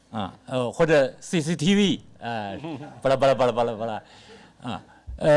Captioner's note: speaks Mandarin